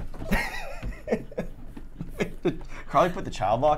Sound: laughing

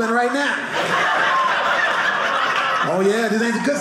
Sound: audience laughing

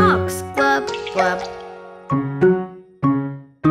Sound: water splashing; quirky piano music

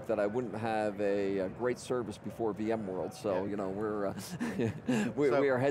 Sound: laughs

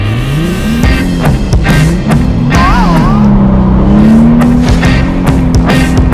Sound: car engine revving; bright upbeat music

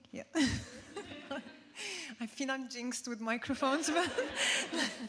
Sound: laughs

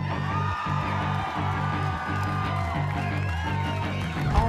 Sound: audience cheering

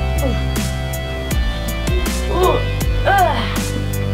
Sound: suspenseful electronic music; groaning

